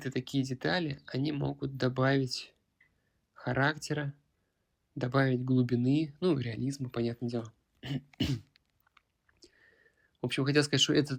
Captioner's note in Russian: откашливается